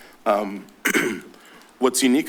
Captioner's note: clears throat